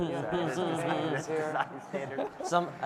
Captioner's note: audience laughing